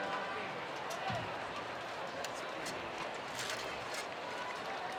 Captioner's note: graduates chattering